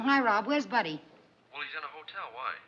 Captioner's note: on phone